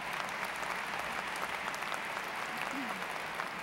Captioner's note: applause